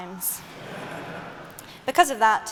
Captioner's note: laughter